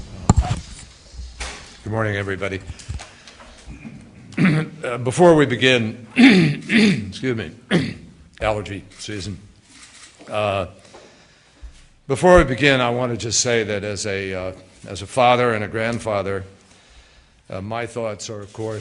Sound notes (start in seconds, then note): 7.4 cough